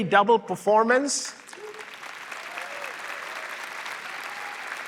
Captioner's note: applause